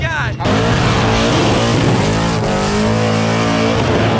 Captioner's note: car engine roaring